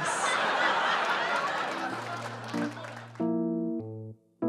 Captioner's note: audience laughs